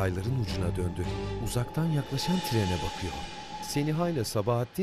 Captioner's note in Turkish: Tren düdüğü sesi